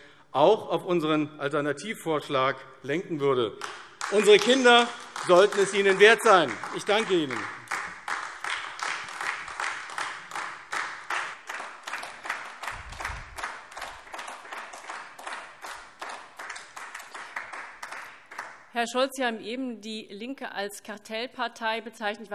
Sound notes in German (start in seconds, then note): 7.6 Beifall AfD